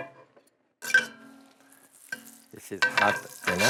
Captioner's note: sizzling